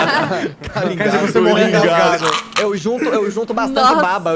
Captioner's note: choke